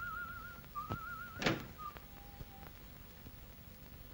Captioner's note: whistles; desk locks